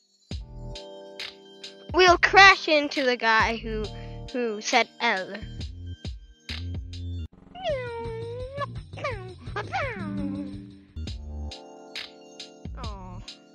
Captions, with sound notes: we'll crash into the guy who who said L *sounds of speed* aw